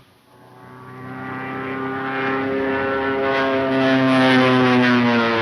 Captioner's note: airplane engine roaring